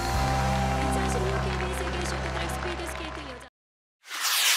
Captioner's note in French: applaudissements